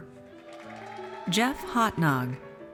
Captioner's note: audience cheers